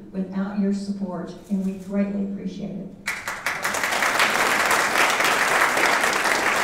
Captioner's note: audience applauding